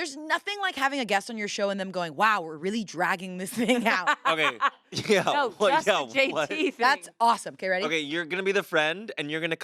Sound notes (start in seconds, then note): 3.7 everyone laughs